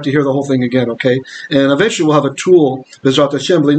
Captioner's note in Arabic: بالعبرية